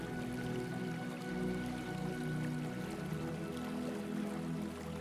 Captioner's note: water trickling